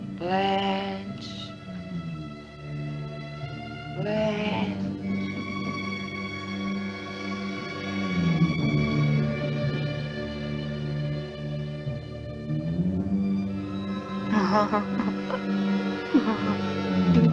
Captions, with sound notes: "Blanche... Blanche..." (dramatic music) (Blanche wimpering)